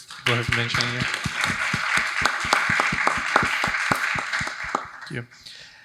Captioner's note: audience applauding